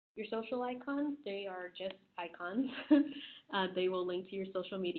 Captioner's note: laughing